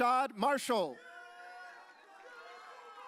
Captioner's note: audience cheering